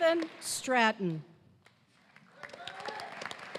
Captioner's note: applause